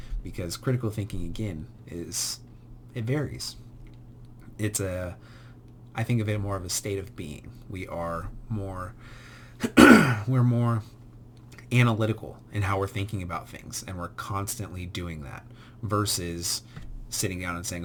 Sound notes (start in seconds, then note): 9.6 instructor coughs